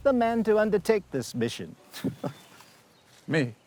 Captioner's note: laughs